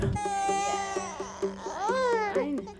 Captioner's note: baby cries